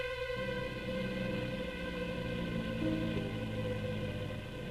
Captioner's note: car horn honking; car engine rumbling